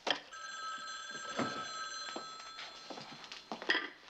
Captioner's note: ringing Continues